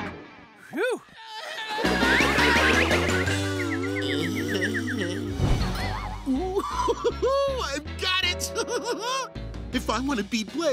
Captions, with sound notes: Phew. [screaming] [groaning] Ooo hoo hoo, I've got it! If I want to beat Blaze,